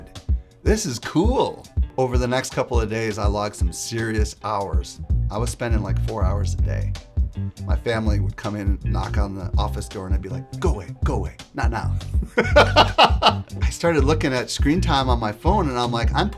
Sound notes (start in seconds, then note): 12.2 laughs